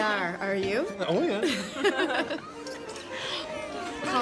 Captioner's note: laughing